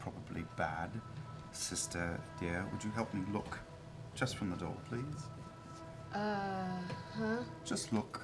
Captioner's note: none